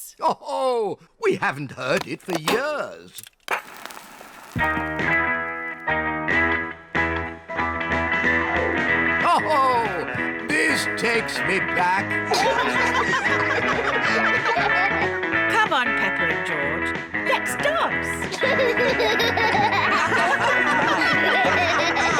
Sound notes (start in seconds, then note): 4.4 rock 'n' roll music; 12.2 all giggle; 18.3 all laugh